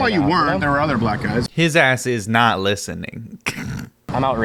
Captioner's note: chuckles